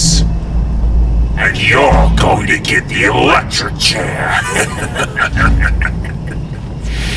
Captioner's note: cackling